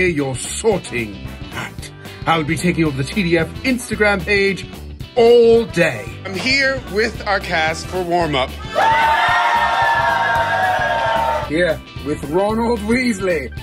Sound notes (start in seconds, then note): 8.6 cheers